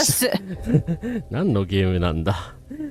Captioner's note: laughs